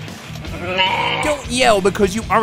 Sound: bleating

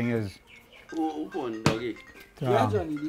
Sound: phone rings

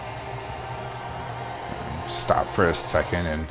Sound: machine whirrs

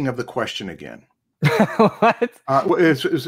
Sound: laughs

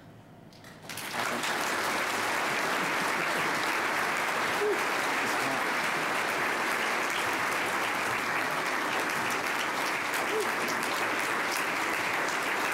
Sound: applause

